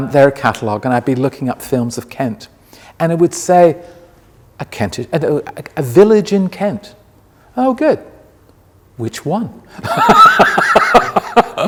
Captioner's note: laughs